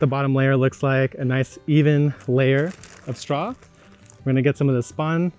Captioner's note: bag crinkling